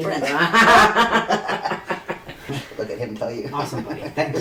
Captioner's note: laughing